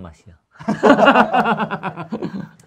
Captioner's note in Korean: 웃음